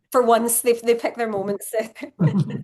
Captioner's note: laugh